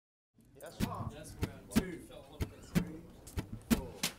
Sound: people chattering

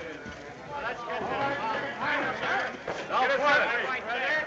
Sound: indistinct chatter

